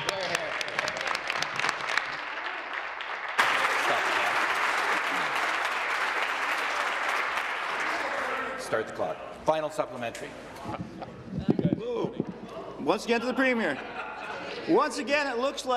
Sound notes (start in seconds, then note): 5.3 some Applause